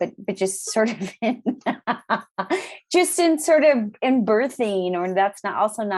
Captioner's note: laughs